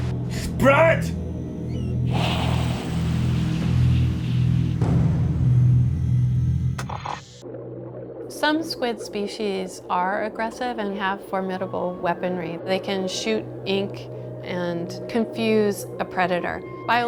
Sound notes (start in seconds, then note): 1.8 static